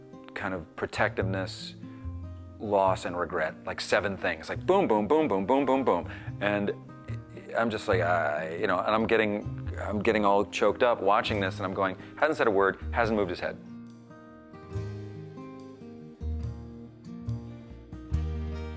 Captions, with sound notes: kind of protectiveness, loss and regret. Like seven things, like, boom, boom, boom, boom, boom, boom, boom. And I'm just like... [stammers] You know... I'm getting all choked up watching this. I'm going, "He hasn't said a word, hasn't moved his head."